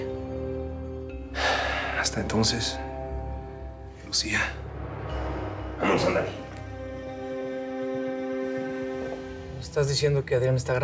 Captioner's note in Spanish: exhala